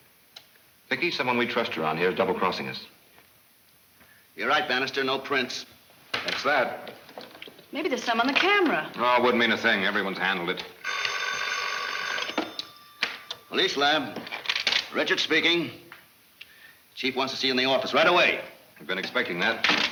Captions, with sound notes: - Vicki, someone we trust around here is double-crossing us. - You're right, Banister, no prints. - That's that. - Maybe there's some on the camera. - Aww, it wouldn't mean a thing. Everyone's handled it. (phone ringing) - Police lab. Richard speaking. Chief wants to see you in the office right away. - I've been expecting that.